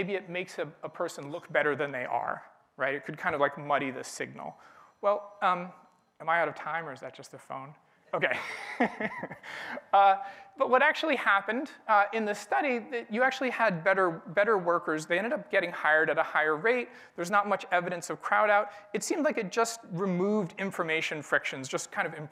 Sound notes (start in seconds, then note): 4.4 phone ringing; 8.2 laughing